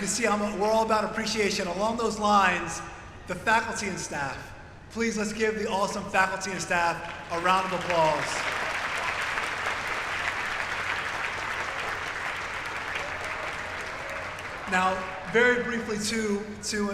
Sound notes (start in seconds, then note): 3.3 applause